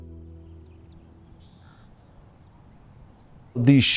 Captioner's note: birds chirping